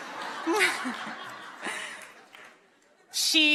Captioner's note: audience laughing